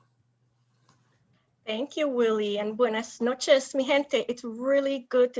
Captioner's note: speaking in a foreign language